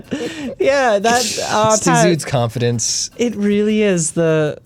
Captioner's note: pat